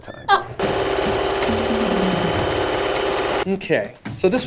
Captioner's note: sewing machine whirring